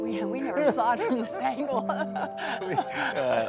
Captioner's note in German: Lacht